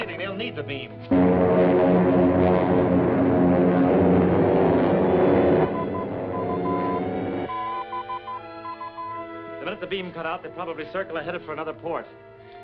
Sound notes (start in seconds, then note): 1.5 suspenseful music; 5.7 beeping